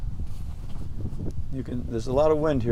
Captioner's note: wind blowing